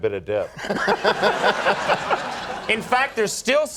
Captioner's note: laughing